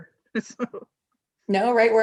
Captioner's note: laughs